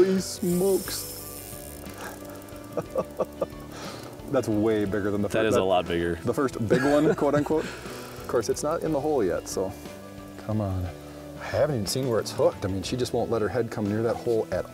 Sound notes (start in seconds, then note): 2.0 chuckles